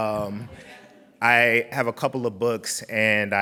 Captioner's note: laughing